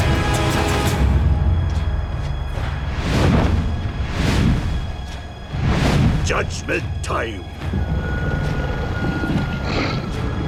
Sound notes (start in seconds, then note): 8.3 snarling